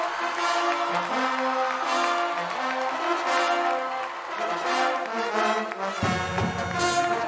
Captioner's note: cheers and applause